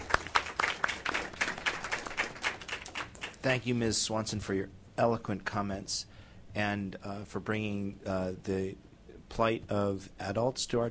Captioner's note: applause